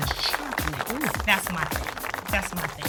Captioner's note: audience applauding